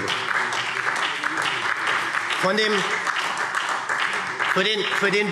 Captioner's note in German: Beifall SPD